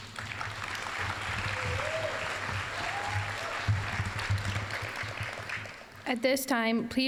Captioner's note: applause